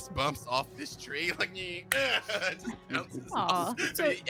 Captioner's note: grunts